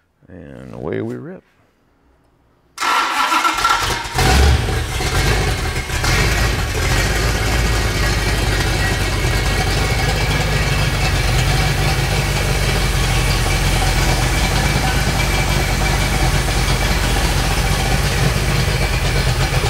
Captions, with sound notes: And away we rip. (engine revs) (engine running)